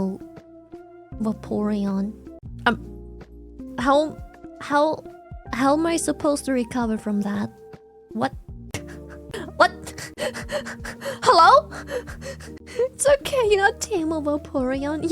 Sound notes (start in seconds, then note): 8.6 laughs; 10.9 laughs